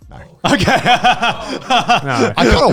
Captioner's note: laughing